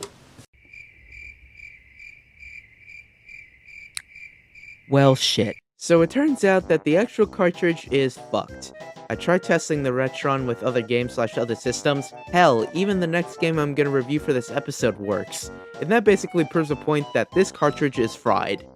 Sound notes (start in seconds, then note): 3.9 lip smack